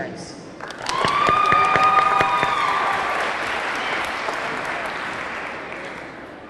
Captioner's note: audience clapping; audience cheering